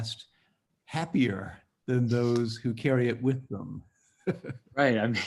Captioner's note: laughs